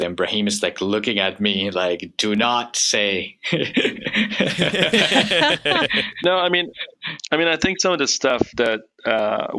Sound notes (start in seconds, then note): 3.5 laughing